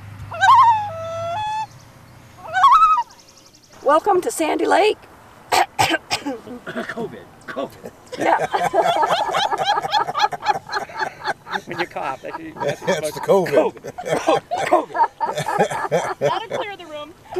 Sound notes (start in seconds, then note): 0.2 loon cry; 2.4 loon call; 4.7 voice cracks; 5.5 cough clearing throat; 6.7 saying covid as coughing; 9.2 laughter; 14.4 saying covid as coughing